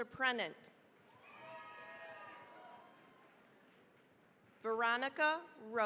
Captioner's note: cheering, applause